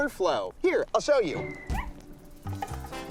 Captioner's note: dog yelps